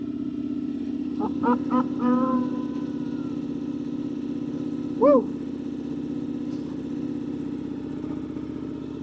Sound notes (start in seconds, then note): 1.2 laughing